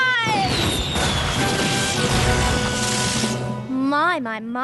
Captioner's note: fireworks whistling